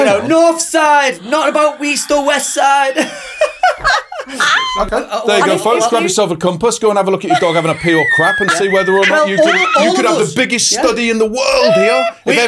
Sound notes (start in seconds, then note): 2.8 laughing